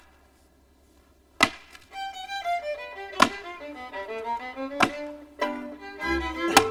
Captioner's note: ax chopping; lively fiddle music